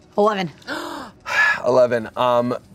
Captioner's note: gasps